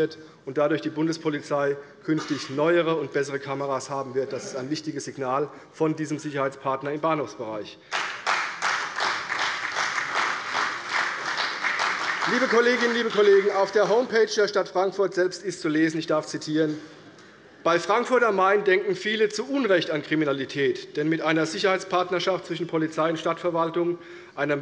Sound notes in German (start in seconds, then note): 7.9 Beifall bei der CDU